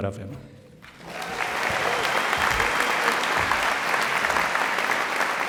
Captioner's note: applause, cheering